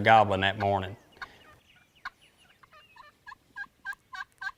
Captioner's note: turkey calling